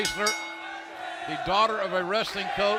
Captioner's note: bell ringing